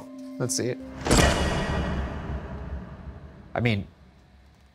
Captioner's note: gate slamming